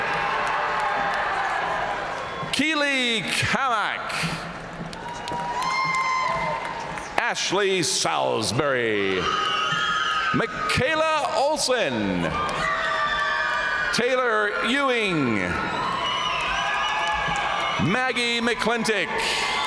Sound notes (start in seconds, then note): 0.0 audience cheering and applauding; 9.2 audience cheering and applauding; 12.3 audience cheering and applauding; 15.5 audience cheering and applauding; 19.4 audience cheering and applauding